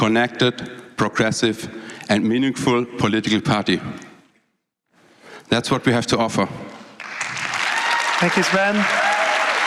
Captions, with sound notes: for political party. That is what we have to (Applause)